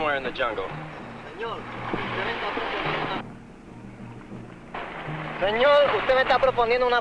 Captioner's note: man speaking in Spanish